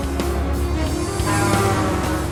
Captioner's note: Chifre blares